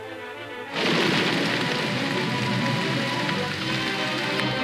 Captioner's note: rain whooshing